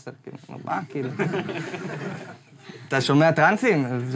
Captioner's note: audience laughs